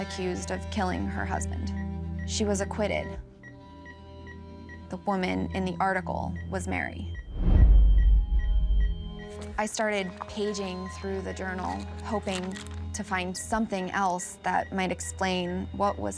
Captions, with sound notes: accused of killing her husband. She was acquitted. [beeping] [ominous music] The woman in the article was Mary. [beeping] [ominous music] I started paging through the journal, hoping to find something else that might explain what